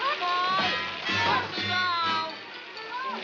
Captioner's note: Zorch screaming